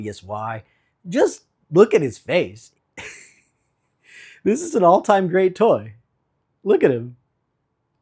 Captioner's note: giggling